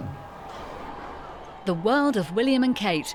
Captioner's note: crowd cheering